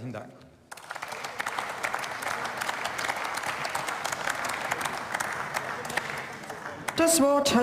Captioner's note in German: Beifall